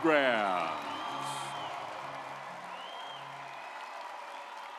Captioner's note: audience applauds